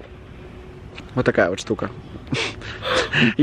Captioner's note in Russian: смех